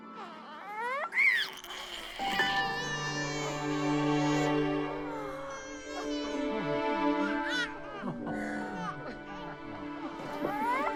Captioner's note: baby crying